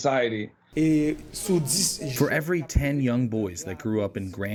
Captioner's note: through translator